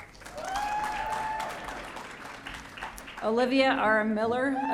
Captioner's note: audience cheering